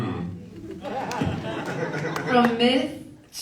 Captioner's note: audience laughs